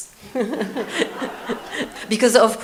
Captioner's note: audience laughs